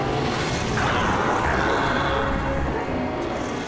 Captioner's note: yells